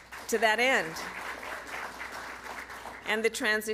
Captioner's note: applause